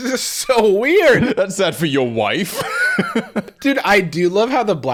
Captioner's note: laughing